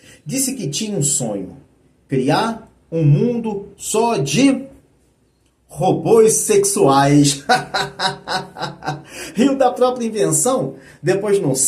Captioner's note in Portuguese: risadas